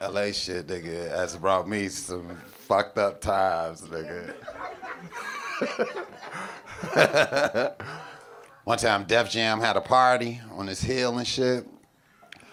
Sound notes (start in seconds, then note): 4.3 laughing loudly